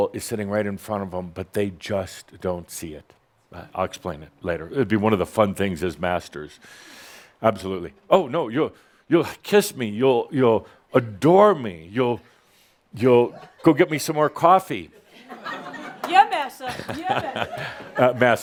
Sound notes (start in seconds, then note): 14.9 some chuckles